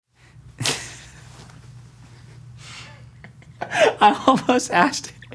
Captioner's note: laughs